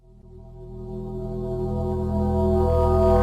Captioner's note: funeral Gong FX plays in reverse